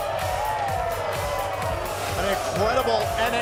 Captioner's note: cheers & applause